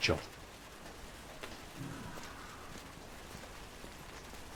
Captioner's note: rain pattering